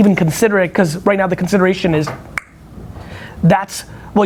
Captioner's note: makes click sound